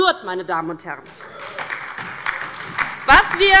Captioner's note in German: Beifall bei der LINKEN und der SPD